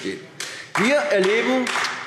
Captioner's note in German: Beifall AfD